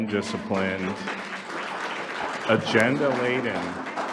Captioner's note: audience applauding